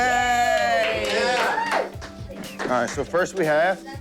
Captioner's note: cheering